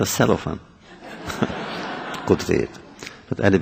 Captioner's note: laughter